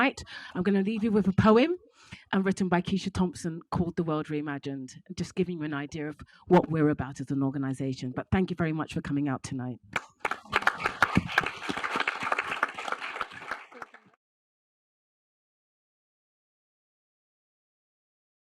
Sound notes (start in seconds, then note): 9.9 audience applauding